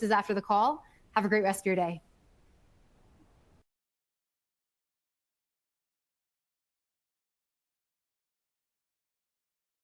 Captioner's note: silence